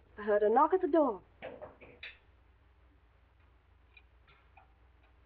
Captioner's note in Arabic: يطرق الباب